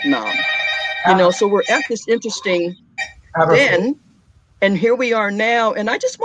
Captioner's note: phone ringing